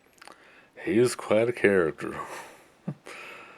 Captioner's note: chuckles